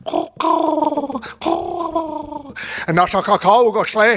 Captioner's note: imitating bird cawing